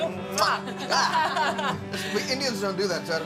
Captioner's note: both laughing